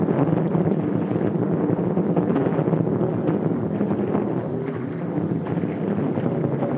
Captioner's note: none